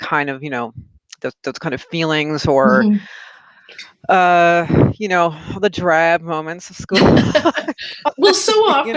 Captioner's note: laughter